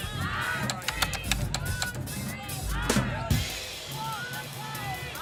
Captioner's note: keyboard clattering